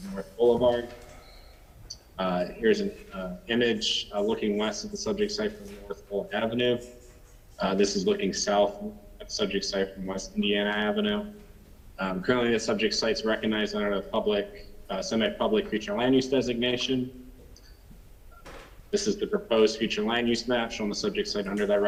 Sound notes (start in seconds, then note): 9.4 ~distortion~